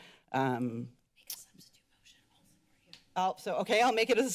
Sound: whispers

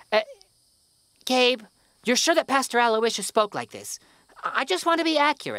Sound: drops accent

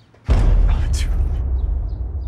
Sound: sudden boom

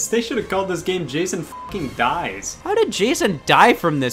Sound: beep

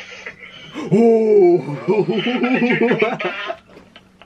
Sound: laughs nervously

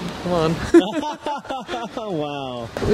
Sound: laughter

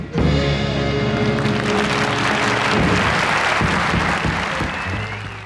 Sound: audience applauding

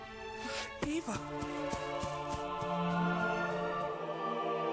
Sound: grass rustling

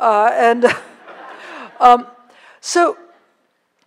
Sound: laughter

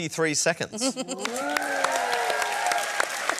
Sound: applause

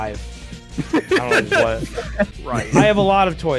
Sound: laughs

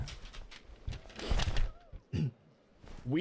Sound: paper flick; clears throat

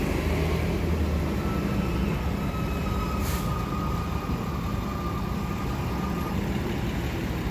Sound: doppler effect on streetcar squeal

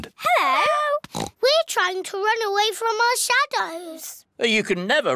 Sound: oinks

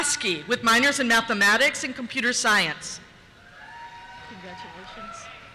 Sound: cheers

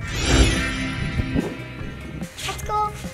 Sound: magical sound; soft classical music

